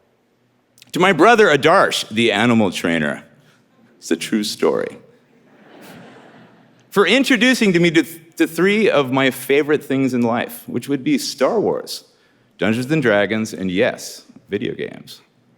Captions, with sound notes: To my brother Adarsh the animal trainer. It's a true story. (audience laughing) For introducing to me the three of my favorite things in life, which would be Star Wars, Dungeons and Dragons and yes, video games.